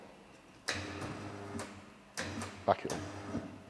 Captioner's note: tyre machine buzzing loudly